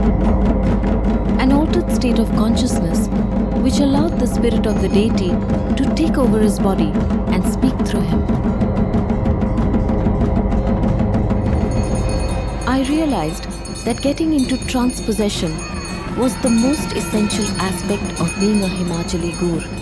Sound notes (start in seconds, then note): 0.0 dramatic music; 0.0 intense drumming; 8.3 bells jingling; 8.3 intense drumming